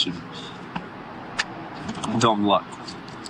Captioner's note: noisy city